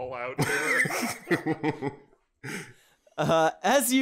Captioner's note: laughter